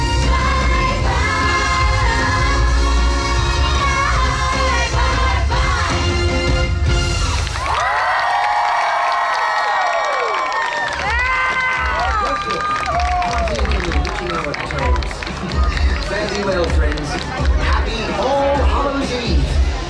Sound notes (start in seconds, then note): 6.8 crowd Cheering